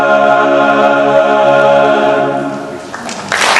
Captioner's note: applause